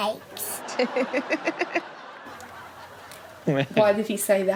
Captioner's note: Chanel laughs